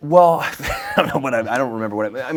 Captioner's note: Ryan laughing